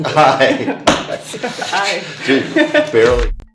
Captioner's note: laughing